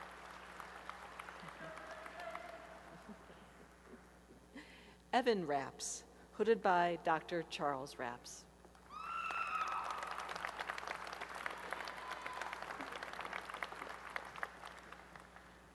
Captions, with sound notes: [applause] Evan Raps, hooded by Dr. Charles S. Raps. [applause and cheering]